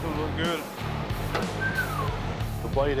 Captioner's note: whistles